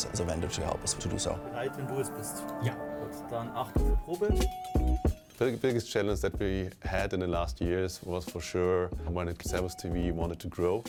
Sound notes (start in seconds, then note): 1.4 speaking in foreign language